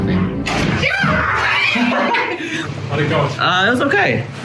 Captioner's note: yelling